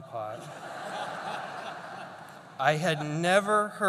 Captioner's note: laughter